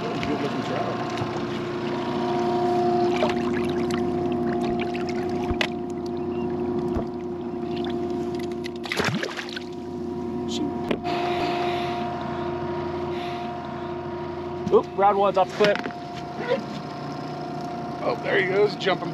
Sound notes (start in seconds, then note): 3.0 fish splashing; 5.9 boat engine idling